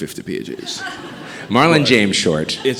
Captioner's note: audience chuckling